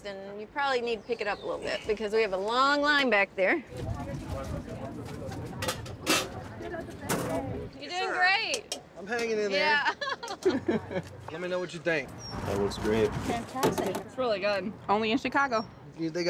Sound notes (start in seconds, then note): 2.6 people chattering